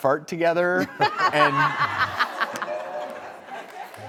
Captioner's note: laughter